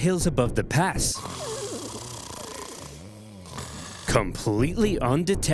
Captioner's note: roman soldiers snoring